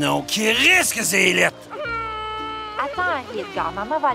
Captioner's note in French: Henri-Edgar pleure